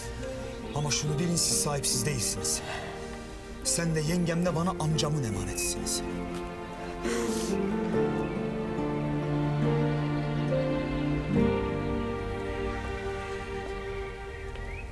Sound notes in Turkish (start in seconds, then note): 7.3 Ağlıyor